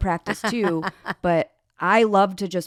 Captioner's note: laughs